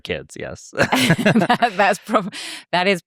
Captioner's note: both laugh